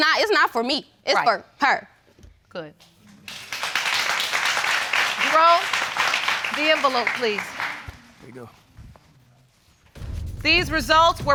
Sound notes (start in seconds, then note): 3.1 audience applauding